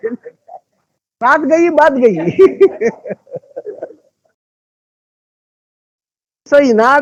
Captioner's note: speaking in Hindi